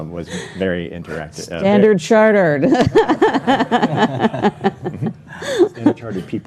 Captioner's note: all laughing